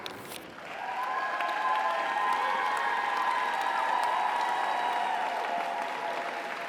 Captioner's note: audience applauds; audience cheers